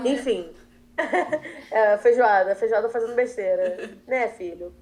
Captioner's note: laughter